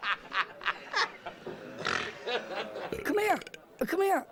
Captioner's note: Eructos